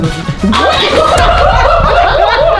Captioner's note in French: rires